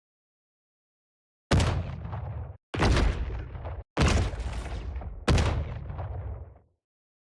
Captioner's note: explosions Sounds Play